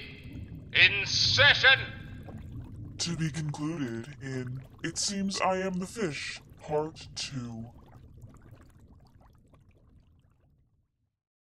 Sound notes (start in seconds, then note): 8.1 underwater bubbles and deep ocean ambience fade out